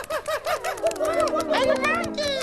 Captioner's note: hooting